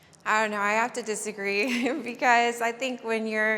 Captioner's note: laughing